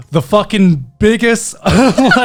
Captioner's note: laughing